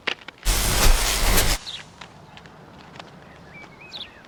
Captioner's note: electricity buzzing